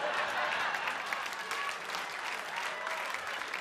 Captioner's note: audience applauds